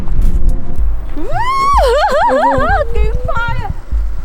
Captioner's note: weird Laughing